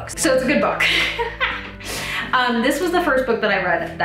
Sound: laughs

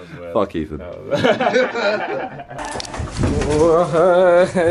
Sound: laughing

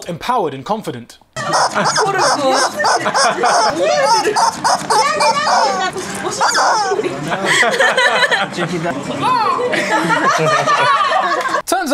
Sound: hilarious Chicken Sounds

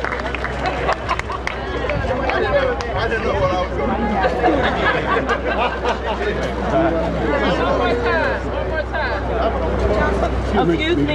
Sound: cheers and applause

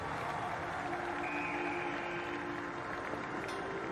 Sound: crowd applauding; whistle blows

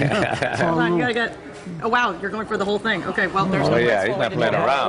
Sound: laughter

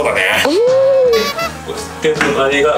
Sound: laughs

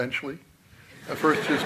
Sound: laughter

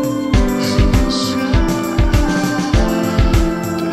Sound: suffocating

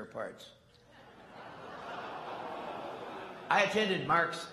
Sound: laughter

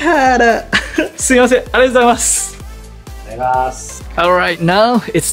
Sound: host replies in japanese

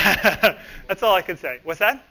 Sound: laughs

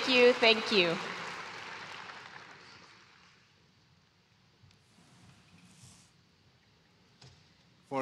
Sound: applause

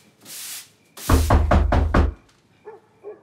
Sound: knocking on door

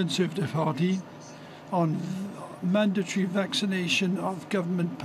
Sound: speaking French

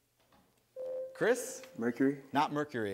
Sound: ding

